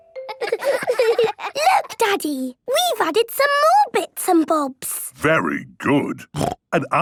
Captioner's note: laughter